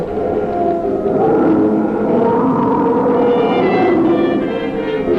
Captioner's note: monster howling